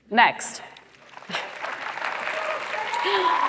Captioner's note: applause